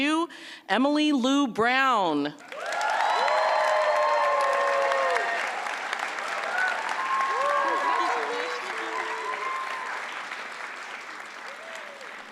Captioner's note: applause